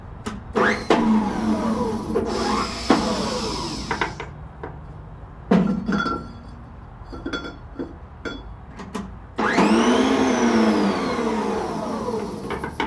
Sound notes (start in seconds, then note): 0.6 machine whirring; 5.1 metal rattling; 9.4 machine whirring